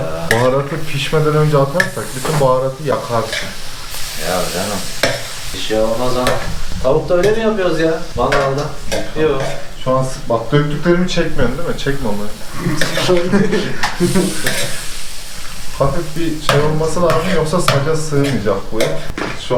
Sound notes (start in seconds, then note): 12.2 laughs